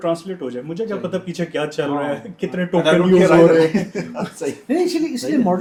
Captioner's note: laughter